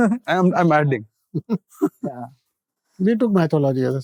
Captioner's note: chuckle softly